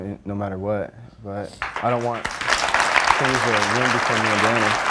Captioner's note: audience claps